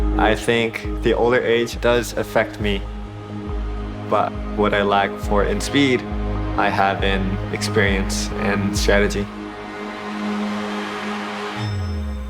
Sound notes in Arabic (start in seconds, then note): 9.6 تشجيع الجمهور